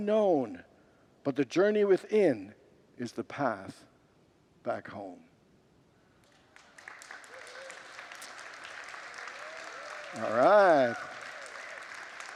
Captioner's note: congregants applaud